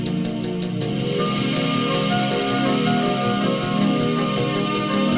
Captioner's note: none